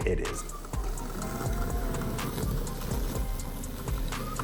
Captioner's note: mower whirring